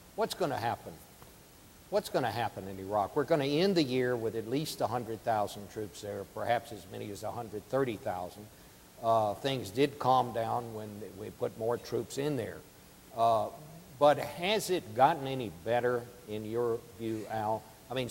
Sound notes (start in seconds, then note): none